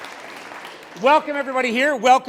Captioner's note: applause, Cheers